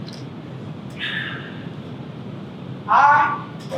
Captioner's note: sighs loudly